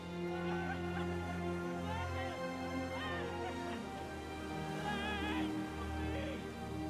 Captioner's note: majestic music; cheering